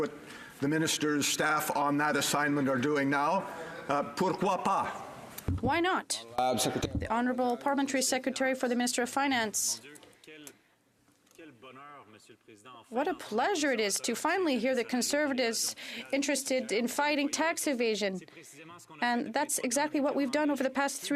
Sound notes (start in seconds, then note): 10.2 speaking French